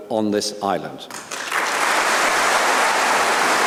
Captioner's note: applause